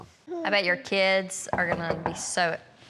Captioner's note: knock on door